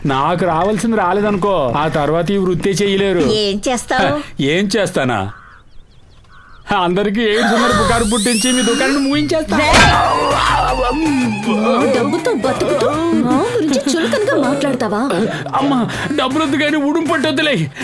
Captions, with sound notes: If I don't get what I want then I'll stop this profession. What will you do? - What will I do? I'll spread a rumour saying you all have aids... - (Gasps) ...and finish your business. (Groans) Will you talk bad of us by taking our money? Forget money, leave me!